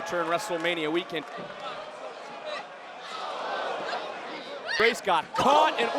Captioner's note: wrestlers grunting